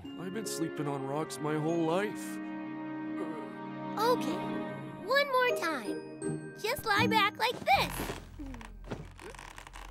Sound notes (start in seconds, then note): 7.5 creaking